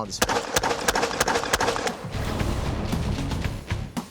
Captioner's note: gun fires